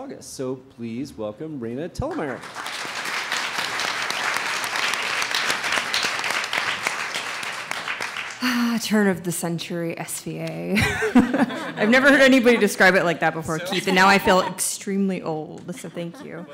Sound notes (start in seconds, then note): 2.1 audience applauds; 8.9 sighs